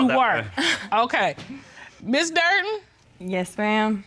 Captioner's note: chuckling